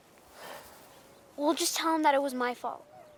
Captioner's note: Jack sighs